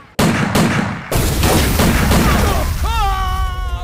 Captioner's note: Explosion